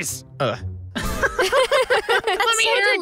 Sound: laughs

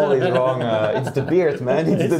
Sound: both laugh

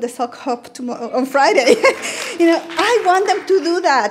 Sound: laughing

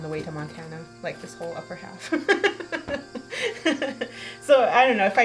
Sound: laughing

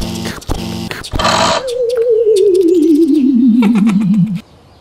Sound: pounding footsteps; powering down; click

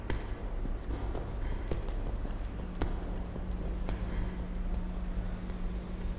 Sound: footsteps approaching

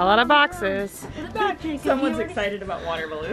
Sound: chattering

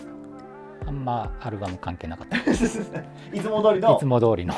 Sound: laughing

